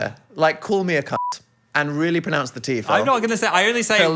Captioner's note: beep